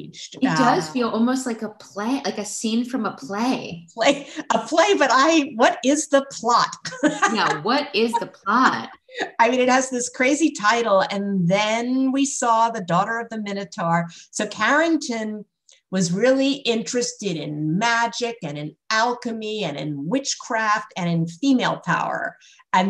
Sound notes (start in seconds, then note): 6.8 laughter